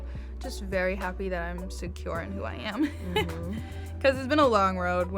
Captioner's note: laughs